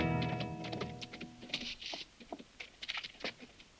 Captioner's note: hooves clopping